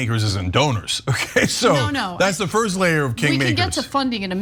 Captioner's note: laugh